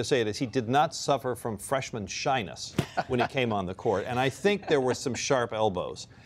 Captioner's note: laughter